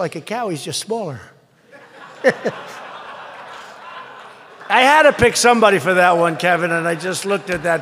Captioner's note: laughter